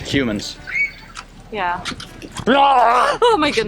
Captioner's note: growling